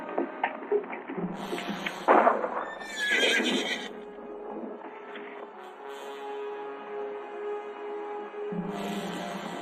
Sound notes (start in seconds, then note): 1.9 gunshot; 2.6 horse neighing; 5.6 tense music